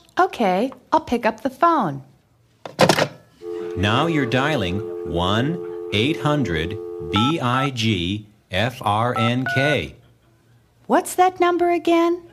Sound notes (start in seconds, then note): 3.4 SFX: Phone picked up, dial tone; 3.4 SFX:Touch tones